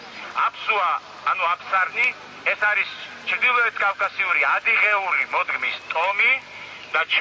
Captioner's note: in Georgian